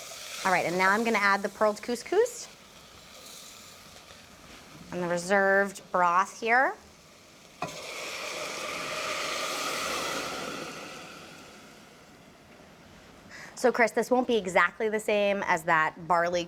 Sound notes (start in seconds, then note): 7.7 pan sizzling